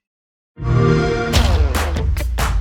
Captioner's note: xbox sound; upbeat rock music playing